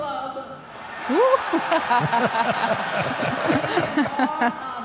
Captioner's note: group laughs